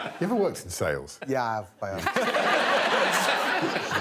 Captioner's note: audience laughing